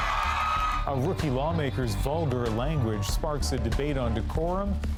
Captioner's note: cheering